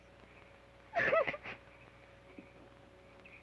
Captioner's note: sobs